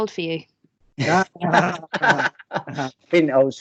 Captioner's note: general Laughter